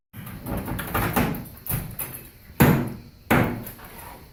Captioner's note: creaking wood